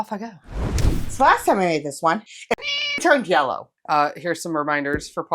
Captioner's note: meow